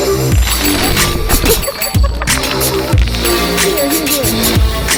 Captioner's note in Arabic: يضحك